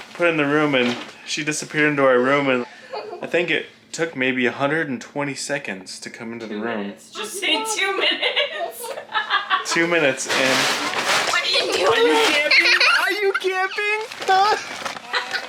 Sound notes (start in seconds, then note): 2.7 laughs; 7.9 laughs; 9.7 plastic rustles; 11.4 giggling